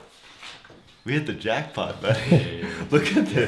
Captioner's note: laughs